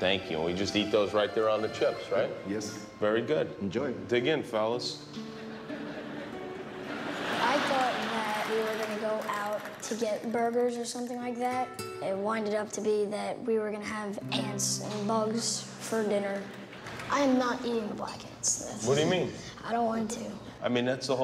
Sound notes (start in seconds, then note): 9.2 laughter